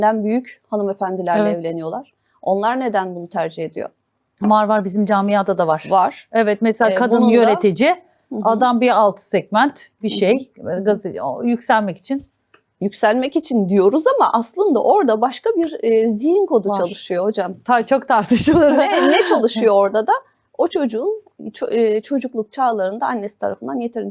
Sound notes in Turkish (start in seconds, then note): 18.4 kahkaha